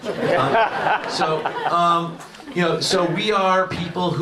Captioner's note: audience laughs